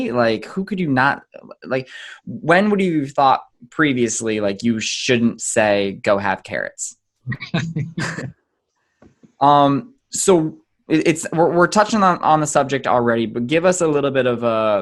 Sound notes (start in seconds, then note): 7.2 laughs